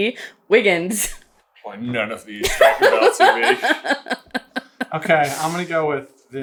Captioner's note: laughing